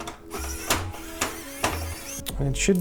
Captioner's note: drill sound